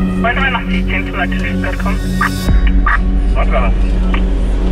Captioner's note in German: Stimmen über Funk, sie antworten